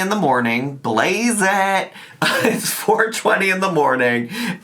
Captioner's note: laughs